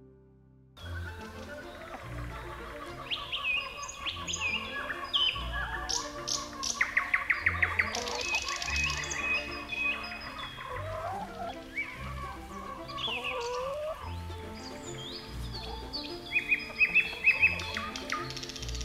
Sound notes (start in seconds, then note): 1.0 birds singing; 13.7 chickens cluck